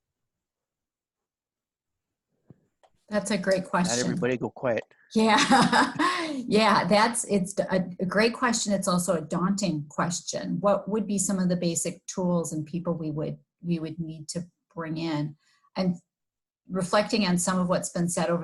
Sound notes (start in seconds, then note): 3.8 laughing